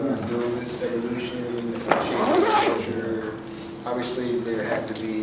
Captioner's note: murmurs